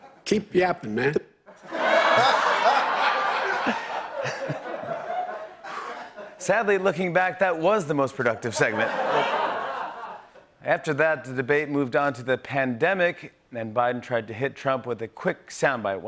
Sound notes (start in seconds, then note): 1.5 laughter